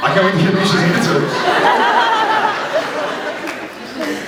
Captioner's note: laughs